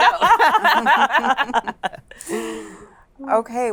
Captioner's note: laughter